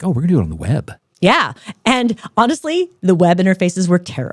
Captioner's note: laughing